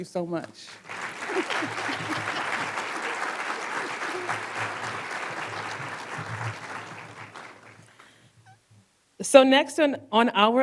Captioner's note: applause